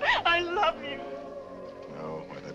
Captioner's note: sobbing